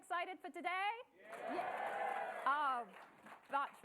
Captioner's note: audience cheering